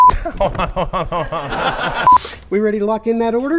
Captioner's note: laughs